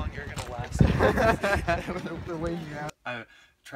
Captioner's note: laughing